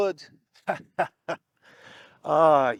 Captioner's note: laughs